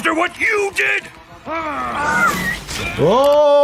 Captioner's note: Invincible groaning; air whistling